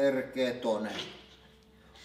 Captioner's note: snickers